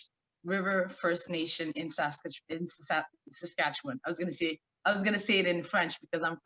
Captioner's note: stammering